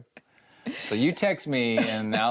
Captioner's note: chuckles